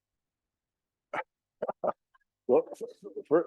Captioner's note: laughing